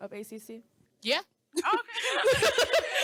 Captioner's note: all laughing